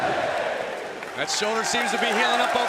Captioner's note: crowd cheering